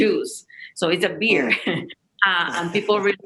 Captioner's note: chuckles